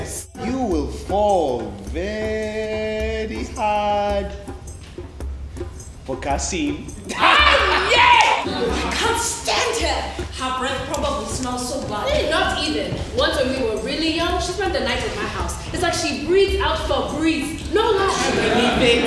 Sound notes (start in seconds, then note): 7.1 laughs